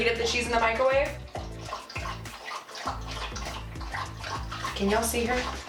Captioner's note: dog slurping water